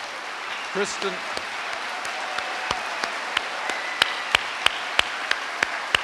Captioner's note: guy and audience applauding